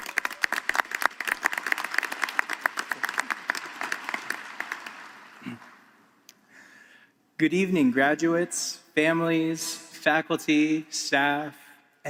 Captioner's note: applause